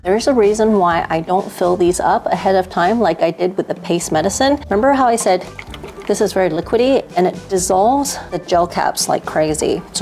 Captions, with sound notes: There is a reason why I don't fill these up ahead of time like I did with the paste medicine. Remember how I said (water sloshing) this is very liquidy and it dissolves the gel caps like crazy.